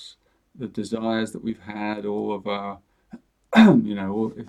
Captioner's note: clears his throat